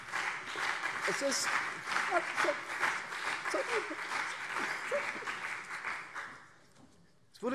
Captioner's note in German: Beifall SPD und CDU